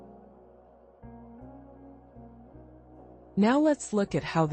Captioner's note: pause